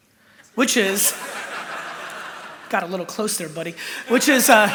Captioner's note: laughter